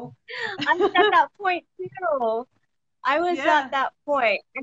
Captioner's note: laughs